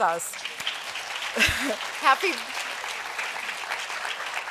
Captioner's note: applause